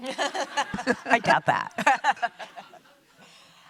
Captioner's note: laugh